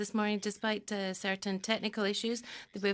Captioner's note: speaking in French